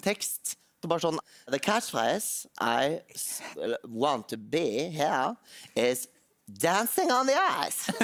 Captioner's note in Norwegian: Belgisk aksent